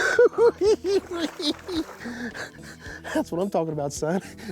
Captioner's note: laughs